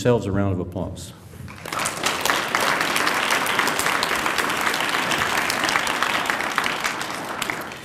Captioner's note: applause